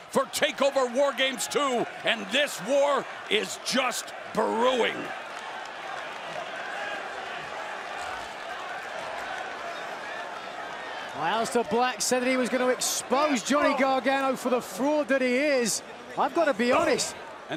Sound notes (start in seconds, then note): 5.4 crowd chatter